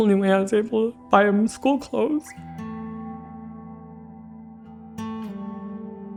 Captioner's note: voice cracking